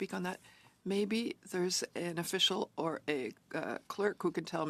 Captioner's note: speaking French